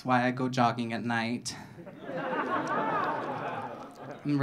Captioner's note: audience laughing